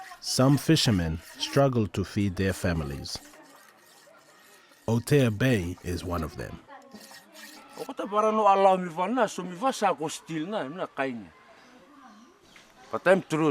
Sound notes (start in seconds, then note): 8.0 speaks in foreign language